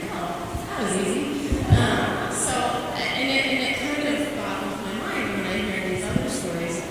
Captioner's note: chuckling